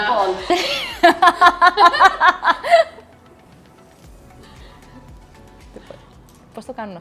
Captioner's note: laughs